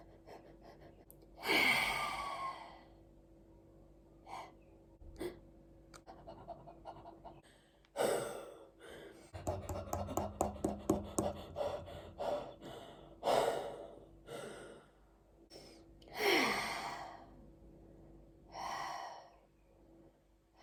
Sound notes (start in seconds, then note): 1.4 gentle breathing followed by a loud sigh; 10.4 loud heavy breathing; 16.1 a series of long slow sighs